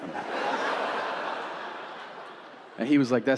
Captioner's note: audience laughing